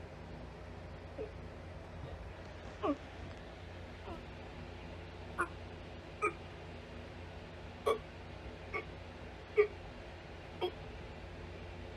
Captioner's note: gagging